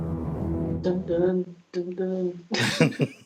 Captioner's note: laughs; humming along with theme song, then laughs